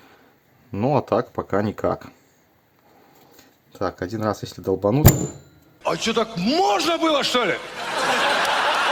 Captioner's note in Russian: смех